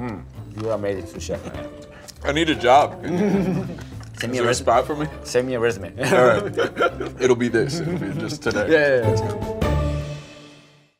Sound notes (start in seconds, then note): 3.0 laughs; 6.0 laughs; 9.9 playful music